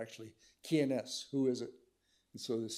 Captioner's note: speaks in foreign language